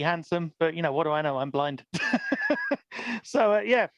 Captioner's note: laughs